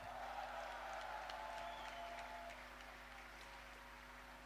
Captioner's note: applause